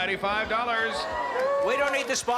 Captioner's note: cheering and applause